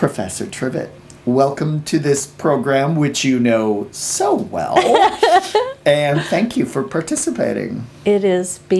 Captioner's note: laughs